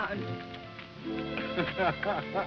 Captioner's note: chuckles